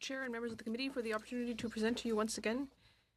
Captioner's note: speaking in french